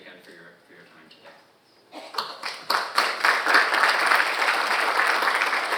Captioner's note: audience applauding